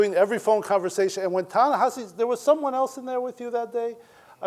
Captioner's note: none